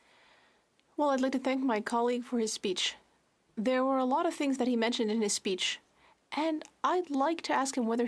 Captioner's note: speaking French